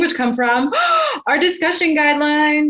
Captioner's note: gasps